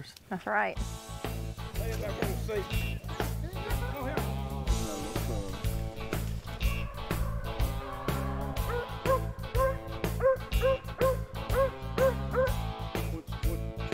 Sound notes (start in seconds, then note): 1.8 upbeat music; 7.3 dogs barking